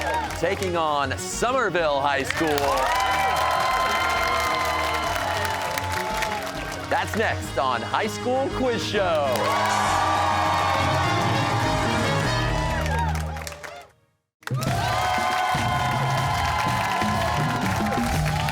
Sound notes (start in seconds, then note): 2.1 cheers and applause; 9.0 cheers and applause